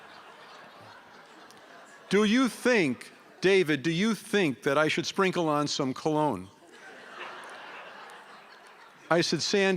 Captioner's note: laughter